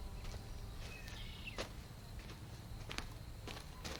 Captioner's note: birds chirping